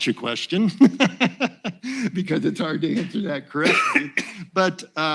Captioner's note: laughs